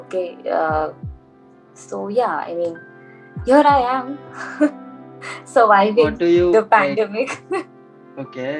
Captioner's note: laughs